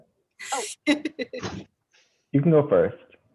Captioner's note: laughing